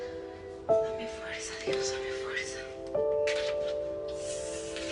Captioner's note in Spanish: Susurrando